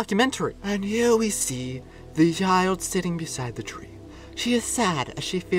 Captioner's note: in a documentary voice